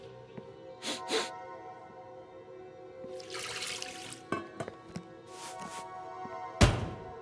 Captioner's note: chef sniffs; eerie music